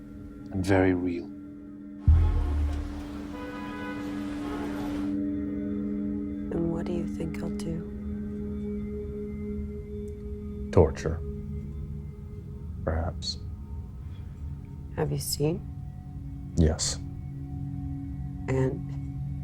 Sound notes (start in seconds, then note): 2.0 car engines revving; 2.0 car horns honking